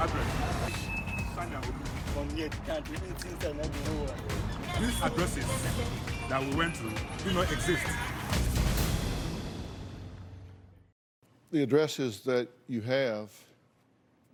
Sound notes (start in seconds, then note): 1.4 speaking native language